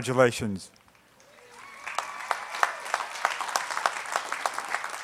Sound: applause

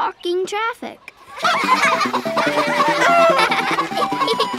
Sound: laughing

